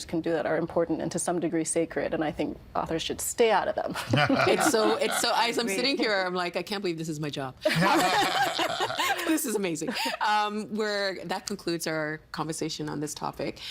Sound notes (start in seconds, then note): 4.0 laughing; 7.7 all laughing